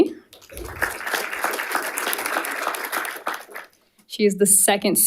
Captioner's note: audience applauding